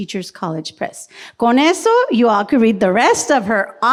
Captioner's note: speaks foreign language